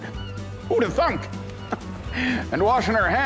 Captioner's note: chuckles